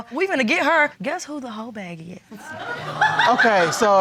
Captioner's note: audience laughs